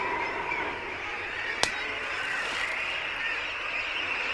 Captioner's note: splash